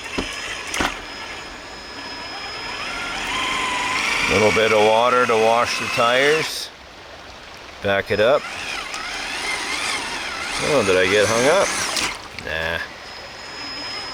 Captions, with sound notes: (engine roaring) (water raging) A little bit of water to wash the tires. Back it up. (engine roaring) Oh, did I get hung up? Hah.